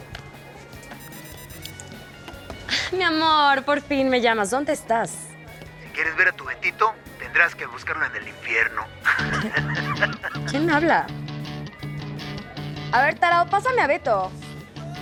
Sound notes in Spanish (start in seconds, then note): 0.9 teléfono timbra; 9.0 risas